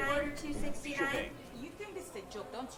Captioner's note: voice on intercom